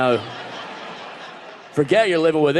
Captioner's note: audience laughing